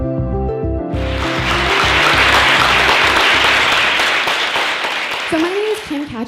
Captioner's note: applause